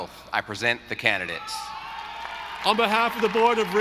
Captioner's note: audience applauding